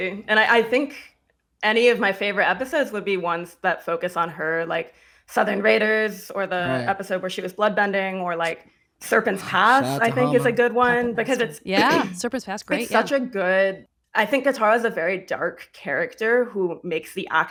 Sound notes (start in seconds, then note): 11.8 clears throat